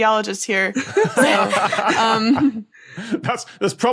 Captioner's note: group laughing